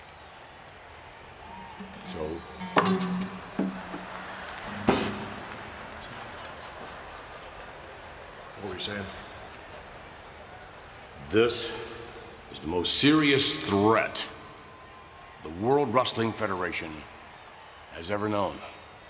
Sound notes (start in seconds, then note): 1.7 audience laughing; 3.0 strings strumming